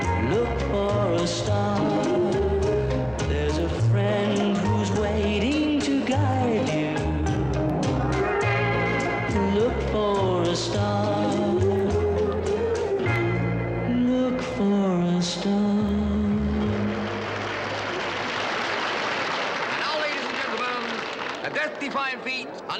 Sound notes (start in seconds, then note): 16.6 audience applauds